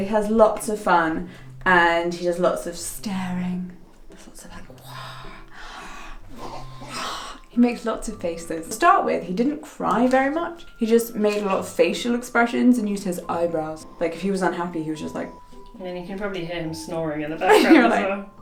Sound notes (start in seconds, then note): 4.7 gasps